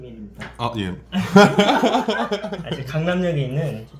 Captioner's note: haha